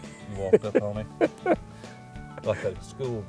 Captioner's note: laughter